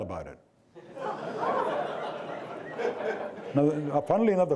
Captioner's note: audience laughing